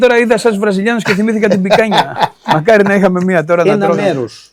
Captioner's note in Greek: γέλια